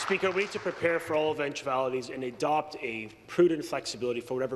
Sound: applause

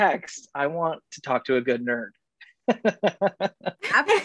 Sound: laughs

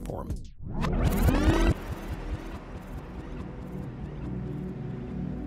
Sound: tape rewinds; light music

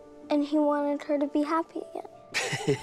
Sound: sarcastic laughter

